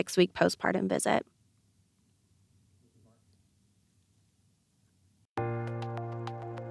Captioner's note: no audio